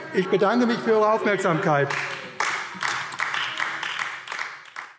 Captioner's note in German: Beifall : Maske!